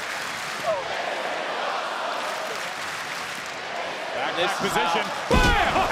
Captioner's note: crowd chanting and clapping